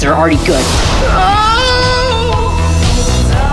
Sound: crash; moaning

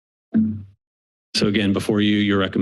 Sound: computer notification

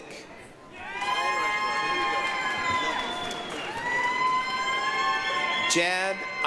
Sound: applause, cheering

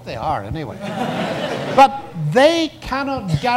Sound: audience laughs

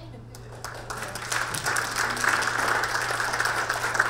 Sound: audience clapping

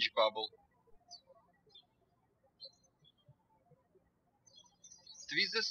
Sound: birds chirping

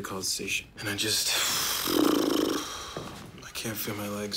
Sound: exhales sharply

